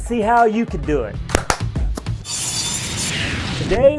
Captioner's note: hands smacking; saw blade buzzing